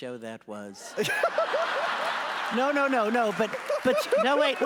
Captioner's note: audience laughs